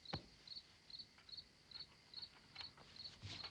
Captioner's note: none